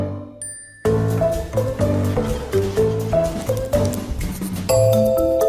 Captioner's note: graphic ringing